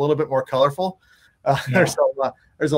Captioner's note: laughing